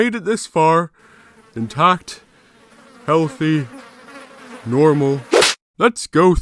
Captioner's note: tongue swats fly